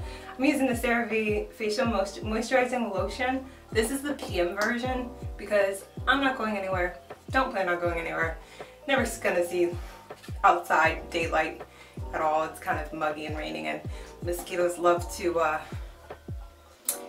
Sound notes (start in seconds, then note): none